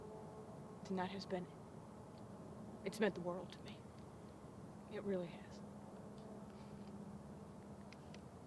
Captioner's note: sniffling